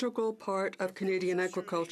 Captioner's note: speaking in French